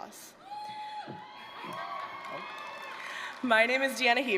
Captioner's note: cheers